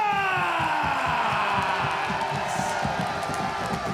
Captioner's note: audience cheering